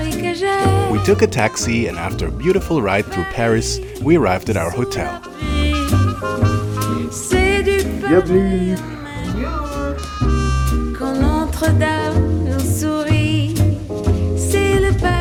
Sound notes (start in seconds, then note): 8.3 speak French; 11.0 mellow French music continues